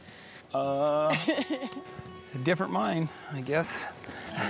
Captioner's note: laughing